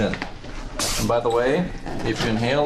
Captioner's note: balloon hisses